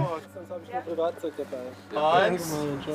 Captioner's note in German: Stimmengewirr